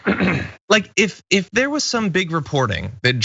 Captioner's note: cough